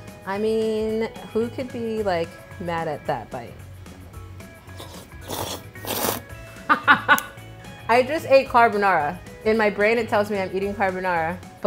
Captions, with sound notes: I mean, who could be mad at that? (slurping of noodles) (laughs) I just ate carbonara. In my brain, it tells me I'm eating carbonara